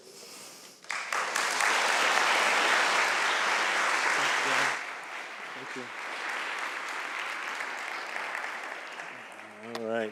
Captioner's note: applause